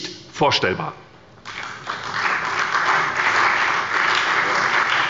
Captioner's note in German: Beifall bei der SPD